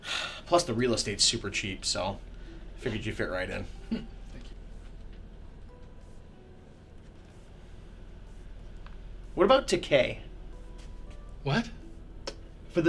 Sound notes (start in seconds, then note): 0.1 sighs; 3.8 chuckles